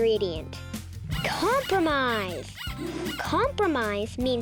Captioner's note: rabbit squeaking